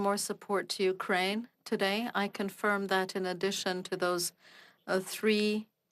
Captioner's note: speaking French